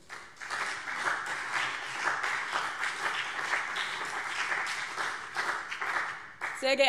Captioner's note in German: Beifall BÜNDNIS 90/DIE GRÜNEN und CDU